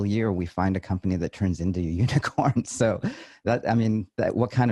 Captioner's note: laughs